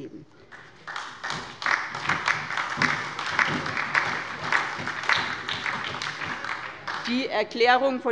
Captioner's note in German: Beifall bei der SPD und der LINKEN